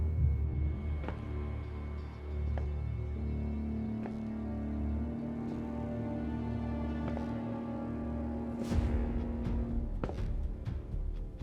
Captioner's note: slow footsteps